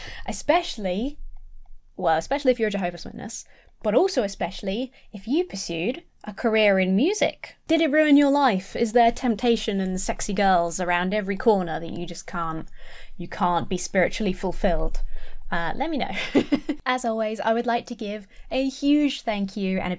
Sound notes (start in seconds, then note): 16.3 laughs